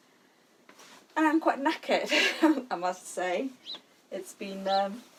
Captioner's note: laughs